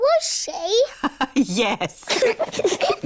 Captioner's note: laughs; both giggle